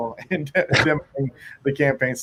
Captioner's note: laughs